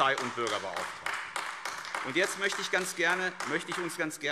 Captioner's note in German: Beifall AfD